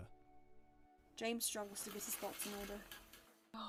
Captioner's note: curtains moving